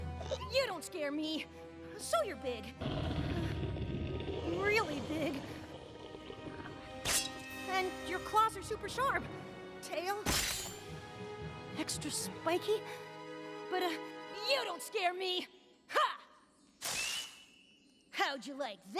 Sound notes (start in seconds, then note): 4.3 growling; 7.0 shing!; 10.2 shing!; 18.1 fizzle!